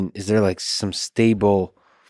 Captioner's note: none